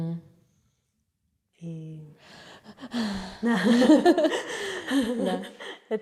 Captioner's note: sigh of excitement